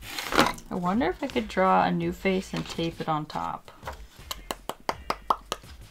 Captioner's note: lip popping sounds